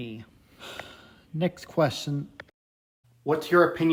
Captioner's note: sighs